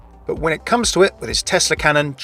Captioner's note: voiceover